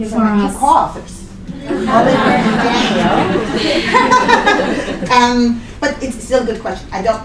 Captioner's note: laughter